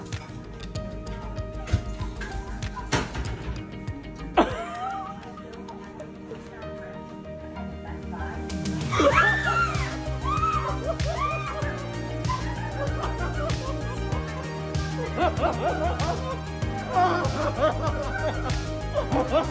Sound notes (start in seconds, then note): 4.1 laughs; 8.9 screams